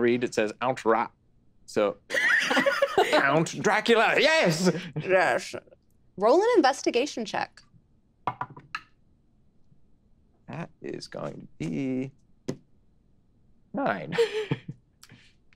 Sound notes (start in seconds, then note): 2.1 group laughing; 14.0 laughing